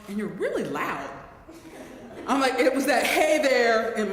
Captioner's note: laugh